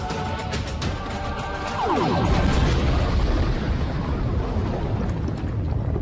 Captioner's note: explosion